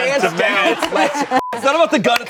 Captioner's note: beep